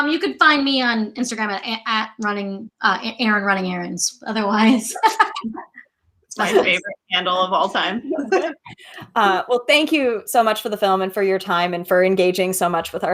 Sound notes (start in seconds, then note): 6.4 laughs